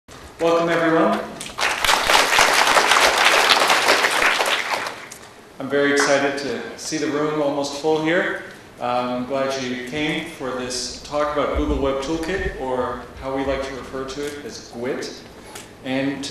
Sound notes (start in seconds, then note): 3.7 applause